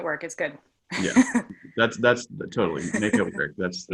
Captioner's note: laughs